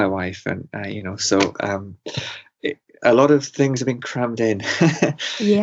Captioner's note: laughs